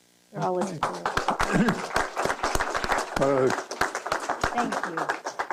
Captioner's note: applause